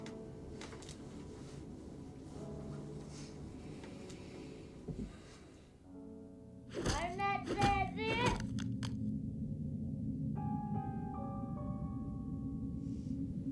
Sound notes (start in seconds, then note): 0.1 somber music continues; 6.7 wooden sword thudding; 9.8 soft suspenseful music